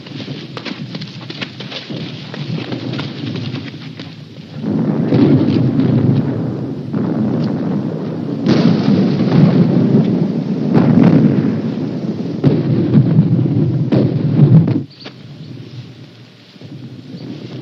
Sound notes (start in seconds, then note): 2.8 artillery exploding in distance; 10.3 birds chirping, artillery exploding in distance